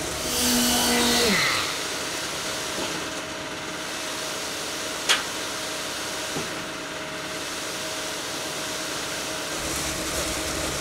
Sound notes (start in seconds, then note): 0.0 machine revving